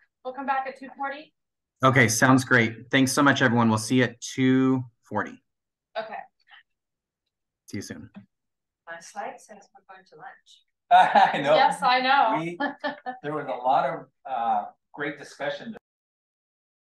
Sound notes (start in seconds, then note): 7.5 chatter